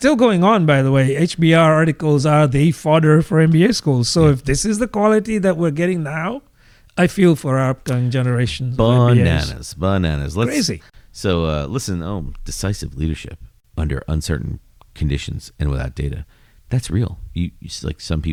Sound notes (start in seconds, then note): 8.6 uh